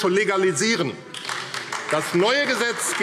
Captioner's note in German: Beifall AfD – Unruhe – Glockenzeichen